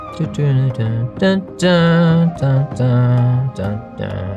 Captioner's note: hamming